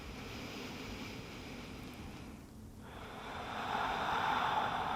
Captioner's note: breathing rhythmically